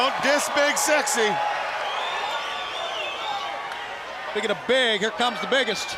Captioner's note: crowd cheering